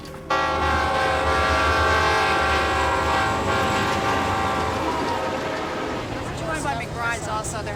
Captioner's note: train horn